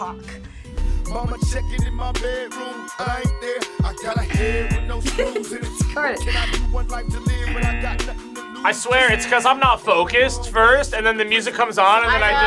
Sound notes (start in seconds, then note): 4.2 laughs; 4.3 buzzer buzzing